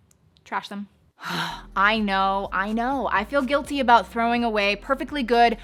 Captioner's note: exhales